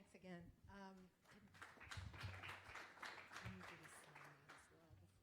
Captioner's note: applause